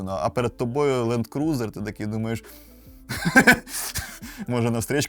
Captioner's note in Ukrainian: сміх